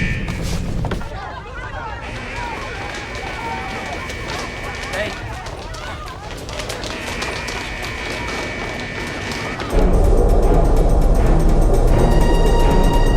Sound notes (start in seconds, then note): 1.0 people excitedly talking; 9.6 suspenseful music